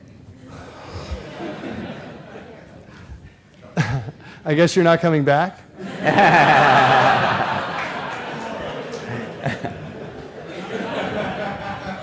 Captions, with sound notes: [LAUGHTER] I guess you're not coming back. [LAUGHTER]